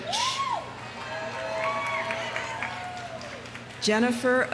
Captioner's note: audience cheering; audience applauding